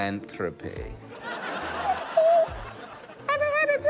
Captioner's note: laughter